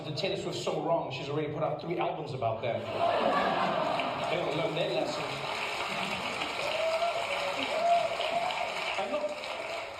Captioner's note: laughter